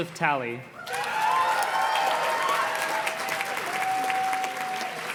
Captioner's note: audience cheers and claps